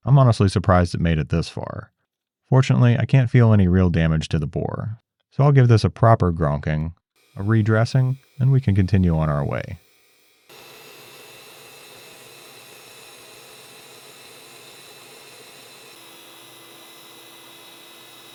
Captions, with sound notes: I'm honestly surprised it made it this far. Fortunately, I can't feel any real damage to the bore, so I'll give this a proper grokking, a redressing, and we can continue on our way. (mechanical whirring)